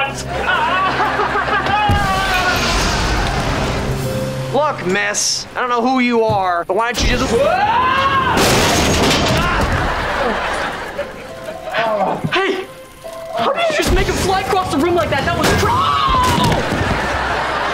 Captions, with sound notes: [screaming] Look, Miss. I don't know who you are. Why don't you just... whoa! [grunting] - Oh. - Hey! How did you just make him fly across the room like that? That was ow!